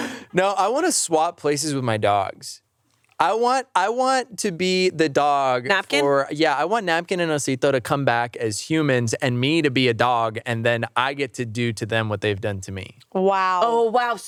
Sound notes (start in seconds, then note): none